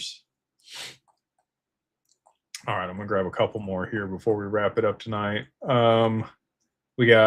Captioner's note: snorts